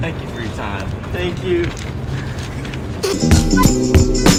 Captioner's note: begins tearing up